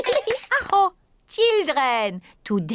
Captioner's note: claps hands; all laugh; exclaims